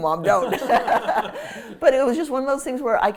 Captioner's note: all laugh